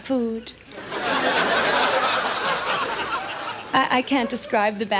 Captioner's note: audience laughs